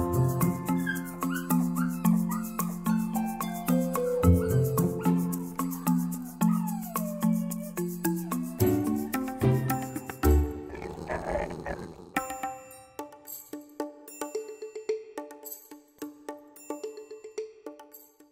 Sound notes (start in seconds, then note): 0.0 upbeat music; 10.4 Dostoevsky growls